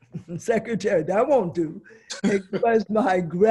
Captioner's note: laughs